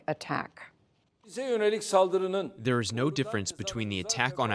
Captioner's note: through translator